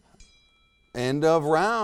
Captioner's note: bell tings